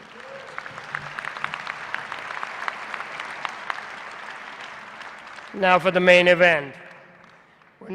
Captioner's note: applause